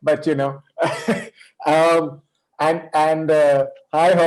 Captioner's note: chuckles